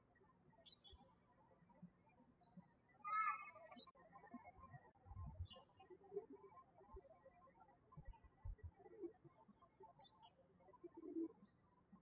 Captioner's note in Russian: птички щебечут